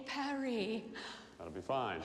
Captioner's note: cheerful gasping